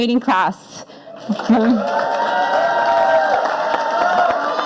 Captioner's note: audience applauding